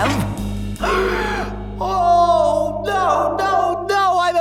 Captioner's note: gasp